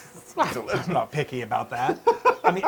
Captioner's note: laugh